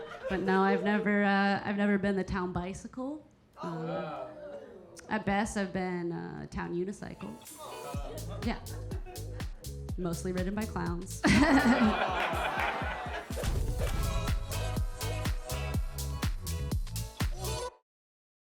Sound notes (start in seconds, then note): 4.2 audience members gasping; 7.4 audience members exclaiming; 7.4 upbeat music; 11.2 Keira chuckling; 11.2 audience laughing; 13.2 upbeat music continues; 13.4 logo thudding